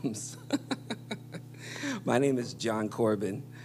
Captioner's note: he laughs